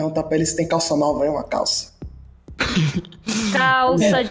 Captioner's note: laughs